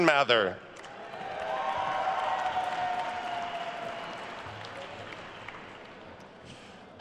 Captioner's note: attendees cheering and applauding